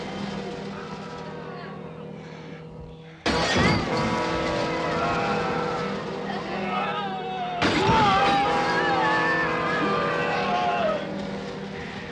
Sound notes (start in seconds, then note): 4.6 shouting, groaning